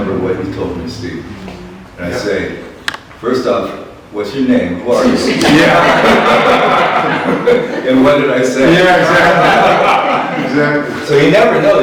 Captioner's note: laughter